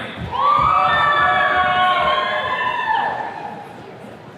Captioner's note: attendees cheering